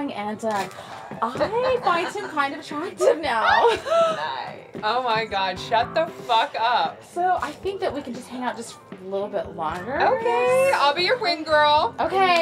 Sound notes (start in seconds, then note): 3.5 laughs